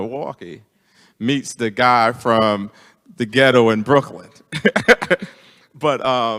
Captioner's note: laughs